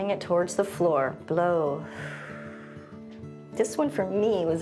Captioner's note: exhales